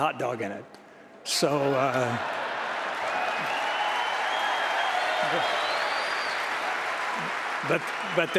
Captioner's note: applause